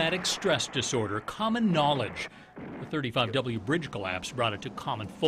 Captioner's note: explosion